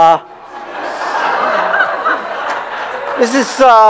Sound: laughter

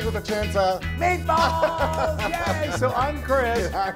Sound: laugh

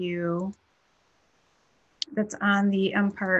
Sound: clicking

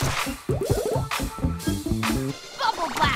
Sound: popping; midtempo music

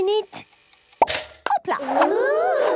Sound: toaster ticking; pops

